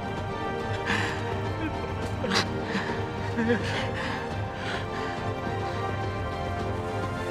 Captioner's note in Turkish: Ağlıyor